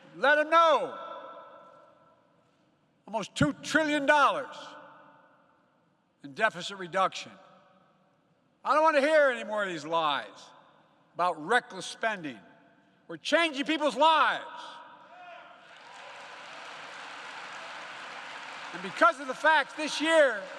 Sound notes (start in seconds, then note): 15.6 applause